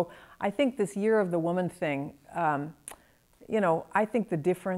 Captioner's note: clicks tongue